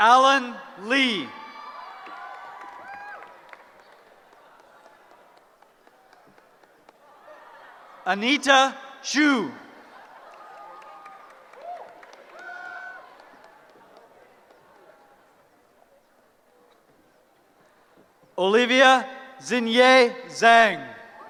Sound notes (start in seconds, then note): 1.0 cheering; 9.8 cheering; 21.1 cheering